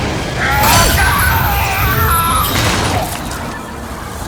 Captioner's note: groans